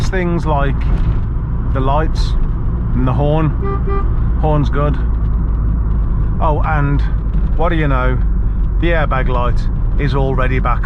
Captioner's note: beep beep